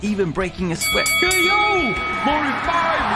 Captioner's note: bell dings